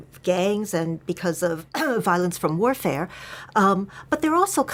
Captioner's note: cough